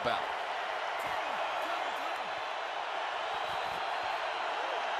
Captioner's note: crowd cheering